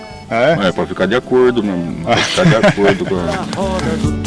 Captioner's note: laughs